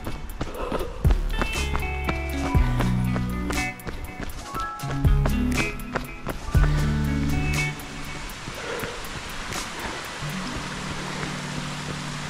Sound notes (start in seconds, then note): 3.0 water splashing; 4.8 water running; 7.7 water splashing